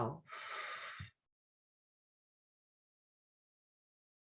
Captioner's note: exhales slowly